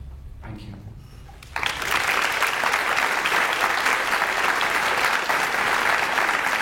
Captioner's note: audience applauds